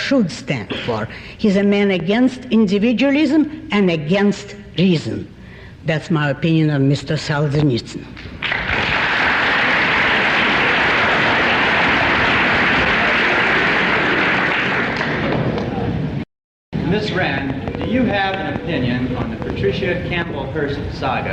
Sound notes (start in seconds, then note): 12.3 applause